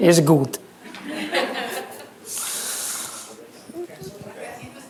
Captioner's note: laughter